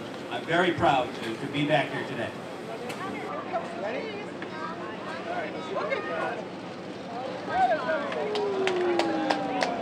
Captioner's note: applause